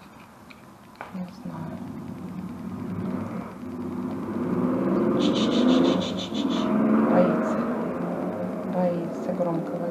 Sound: the sound of a passing car

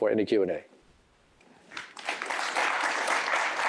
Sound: applause

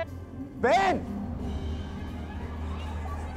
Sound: shouts; mutters

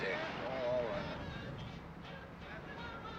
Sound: none

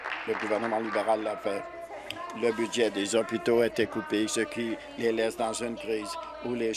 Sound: applause

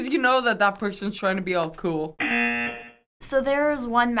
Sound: buzzer

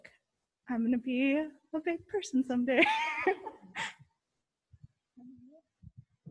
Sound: laughs

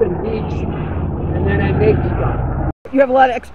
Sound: engine sound

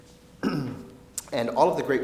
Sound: clears throat

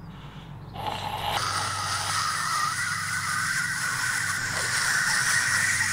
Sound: screeching Loudly

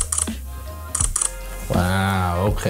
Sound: camera clicks

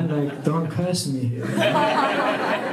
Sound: laughter

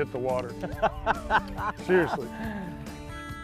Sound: laughter

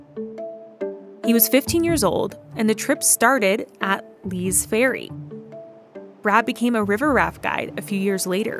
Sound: soft sound of river flowing

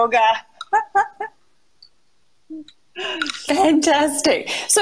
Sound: laughs

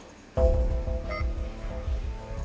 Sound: tablet beeping

